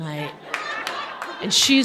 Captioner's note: audience laughing